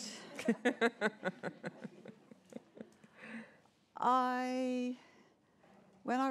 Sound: laughter

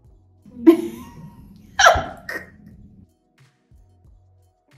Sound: laughing

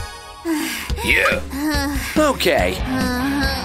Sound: groans; moaning

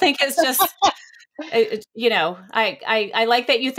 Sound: laughs

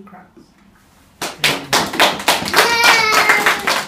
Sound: clapping

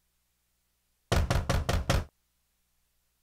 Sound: knocks on door

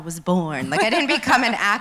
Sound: laughs

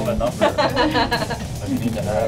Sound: laughter

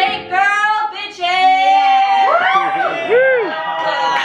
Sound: cheers and laughter

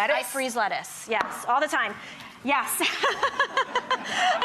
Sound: laughter

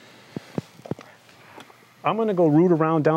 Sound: sighing

